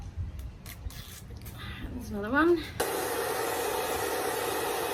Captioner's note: peeling noise; blow dryer noise